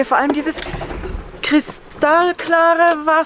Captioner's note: engine dies